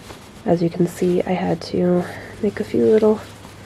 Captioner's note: none